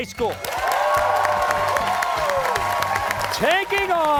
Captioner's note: cheers and applause